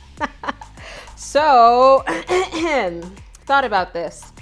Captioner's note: laughs; coughs